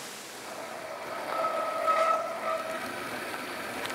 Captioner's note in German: Bremsen quietschen